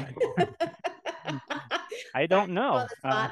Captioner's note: laughing